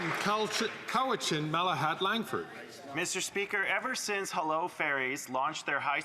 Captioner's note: some Applause